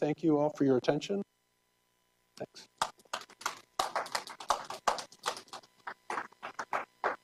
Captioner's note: applause